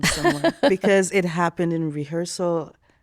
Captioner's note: laughing